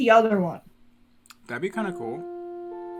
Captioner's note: hourly bell chime